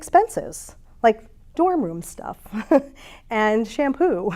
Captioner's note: chuckles